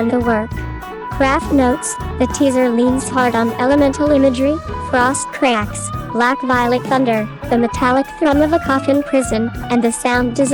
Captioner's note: frost cracks, black-violet thunder, the metallic thrum of a coffin-prison